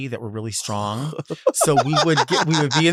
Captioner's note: Sapphira laughs